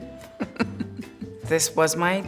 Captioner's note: laughs